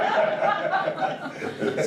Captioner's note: audience laughs